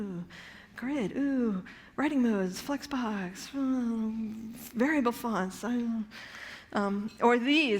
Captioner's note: mumbles